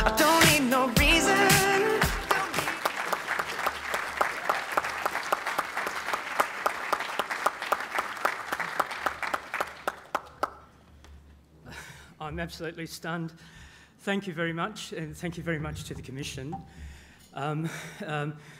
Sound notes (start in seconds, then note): 7.3 applause